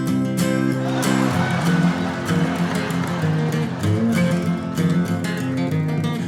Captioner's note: shrieking laughter